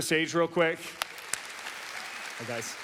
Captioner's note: audience applauds